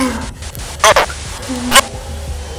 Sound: distorted

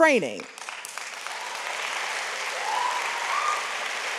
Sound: audience applauds

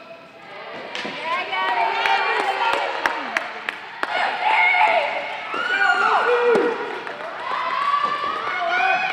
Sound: crowd Cheering

